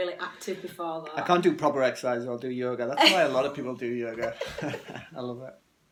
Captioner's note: laughing